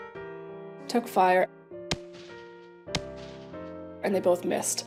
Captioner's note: gunshots